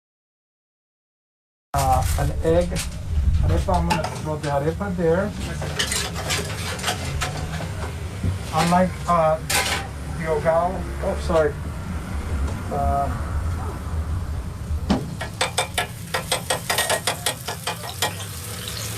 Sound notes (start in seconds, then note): 6.7 scraping metal; 9.1 speaking foreign language; 14.9 metal tapping; 17.2 sizzling